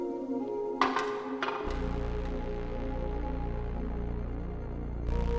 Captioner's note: metal tins clanging; tense music